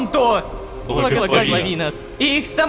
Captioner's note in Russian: Толпа